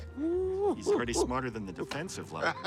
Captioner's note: laughs